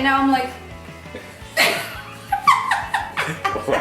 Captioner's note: both laughing